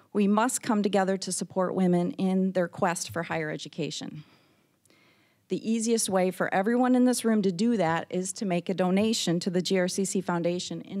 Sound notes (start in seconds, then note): none